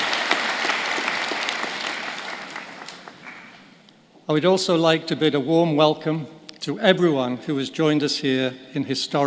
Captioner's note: applause